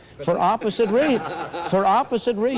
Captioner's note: laughter